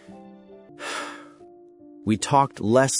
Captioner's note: sigh